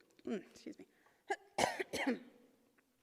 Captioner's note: coughs